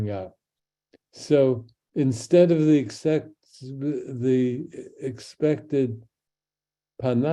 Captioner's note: speaks in Hebrew